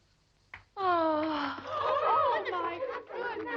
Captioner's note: girl gasps